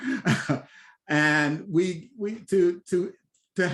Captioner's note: laughs